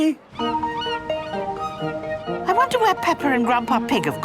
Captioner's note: gulls squawking